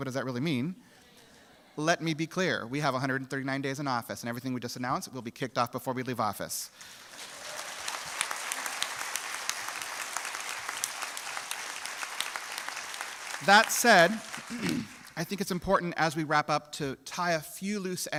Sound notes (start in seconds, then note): 12.0 applause